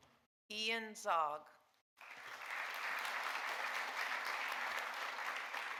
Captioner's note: audience applauding